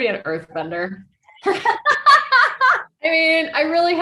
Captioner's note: laughing